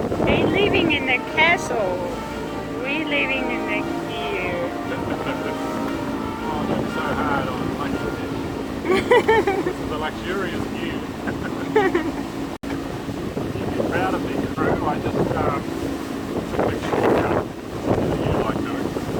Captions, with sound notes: they're living in a castle We're living in a Ger. Awwww. Don't be so hard on Luckyfish. [LAUGHS] This is a luxurious Ger. [LAUGHS] You'd be proud of me, crew. I just ummmm took a short cut. Something you like doing.